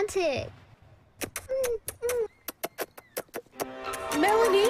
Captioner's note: lip smacking